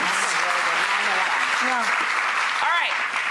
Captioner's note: applause